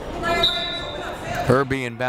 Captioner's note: whistle blaring